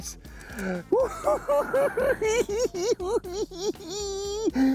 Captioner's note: cackling